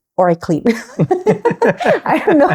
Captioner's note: both laughing